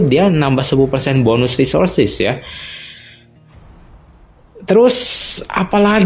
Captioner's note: gasp; sigh